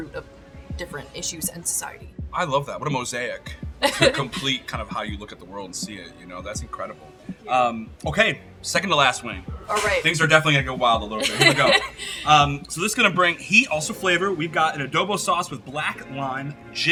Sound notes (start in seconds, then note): 3.8 chuckling; 11.2 laughing